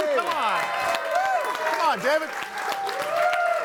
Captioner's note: audience cheering; audience cheering and applauding